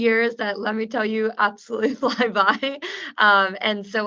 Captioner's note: laughs